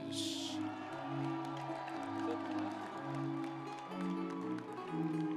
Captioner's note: audience cheering; energetic music continues